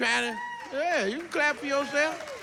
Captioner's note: women cheer